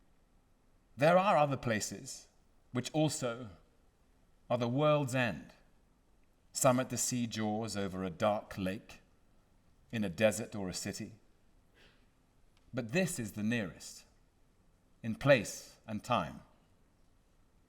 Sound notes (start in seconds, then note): none